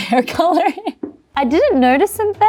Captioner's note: chuckles